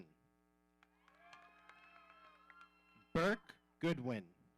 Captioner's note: audience cheering